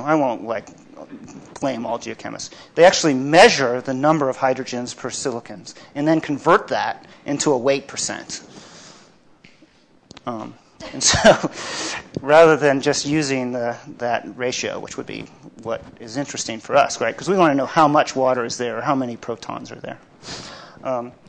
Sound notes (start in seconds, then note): 10.7 laughs